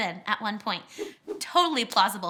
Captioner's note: whooshing